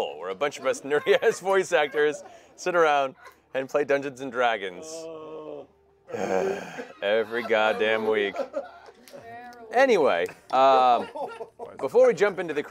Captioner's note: heavy sigh